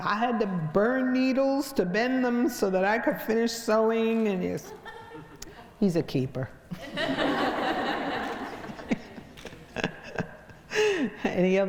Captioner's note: crowd laughs